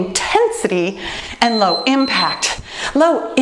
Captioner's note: bell dinging